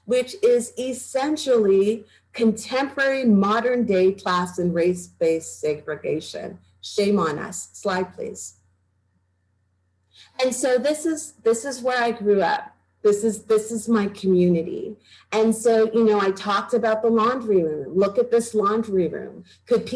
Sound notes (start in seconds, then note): none